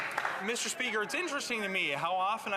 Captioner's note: some Applause